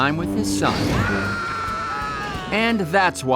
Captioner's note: scream